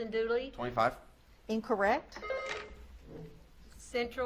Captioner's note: buzzer beeps